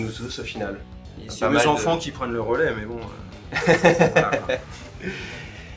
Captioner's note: laughs again